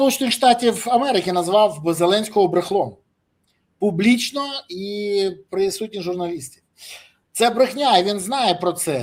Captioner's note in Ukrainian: сопіння